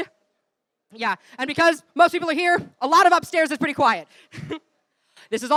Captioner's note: laugh